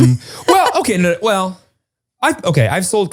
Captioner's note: laughs